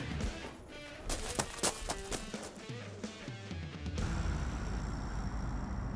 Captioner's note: gravel crunching; upbeat music fades